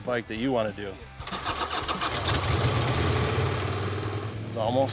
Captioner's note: motorcycle clicking